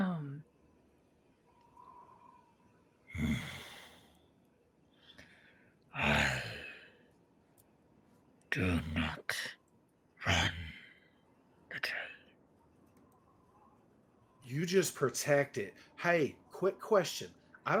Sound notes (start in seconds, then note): 3.1 grunts; 4.5 heavy voice